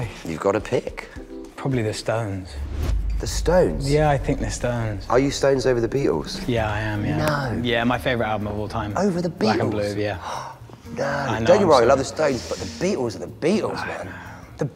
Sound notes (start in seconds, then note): 9.9 gasps; 13.5 sighs